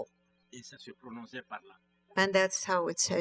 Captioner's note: speaking french